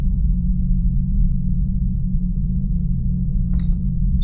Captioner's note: low rumble continues